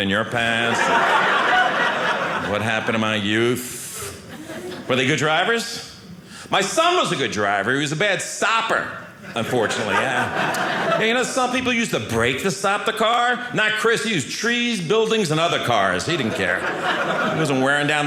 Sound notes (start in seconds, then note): 0.6 audience laughing; 9.3 audience laughing